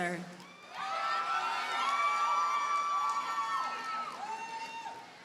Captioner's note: audience cheers and applauds